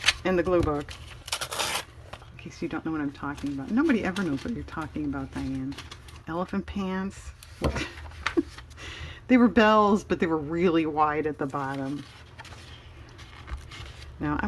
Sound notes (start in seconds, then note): 8.6 laughs